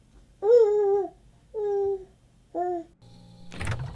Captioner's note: baby cooing